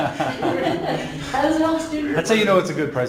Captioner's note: laughing